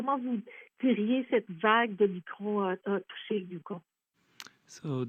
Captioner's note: speaking French